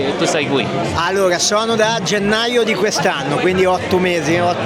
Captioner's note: Italian; Italian